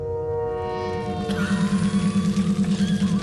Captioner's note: coughing